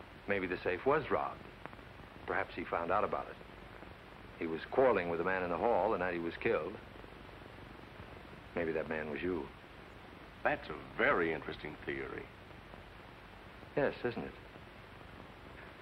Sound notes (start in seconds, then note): none